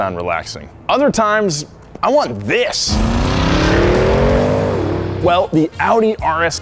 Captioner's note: car roaring